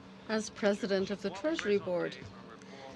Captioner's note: speaking French